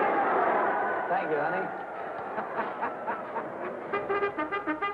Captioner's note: crowd cheering